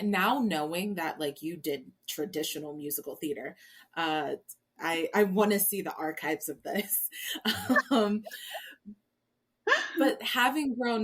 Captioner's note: laughs